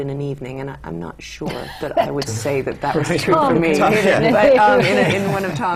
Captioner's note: laughter